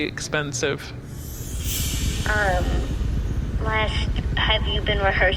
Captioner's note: transition sound